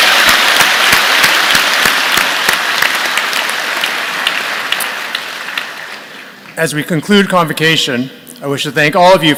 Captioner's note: applause